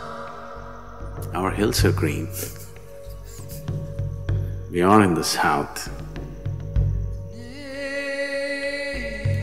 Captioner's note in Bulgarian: смее се